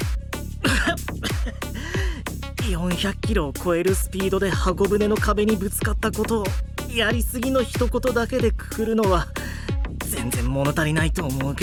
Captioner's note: cough, cough, cough